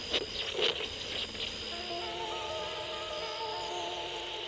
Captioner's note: static crackling